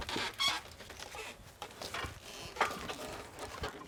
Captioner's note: wood creaking